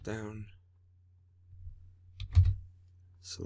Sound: typing

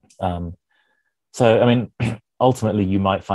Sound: clears throat

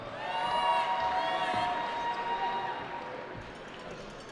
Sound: cheering

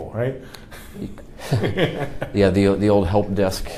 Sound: laughs

